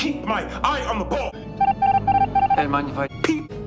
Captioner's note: amongus noise